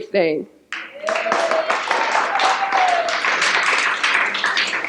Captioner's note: cheers and applause